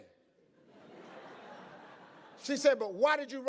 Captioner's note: audience laughs